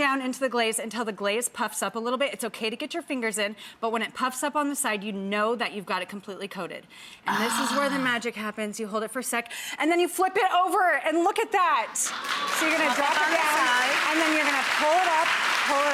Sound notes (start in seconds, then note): 11.9 applause